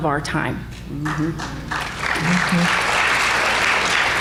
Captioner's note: applause